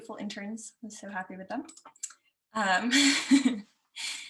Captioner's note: laughs